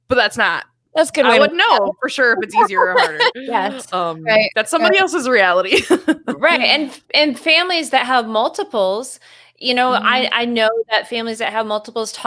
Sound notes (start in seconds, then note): 5.8 laughs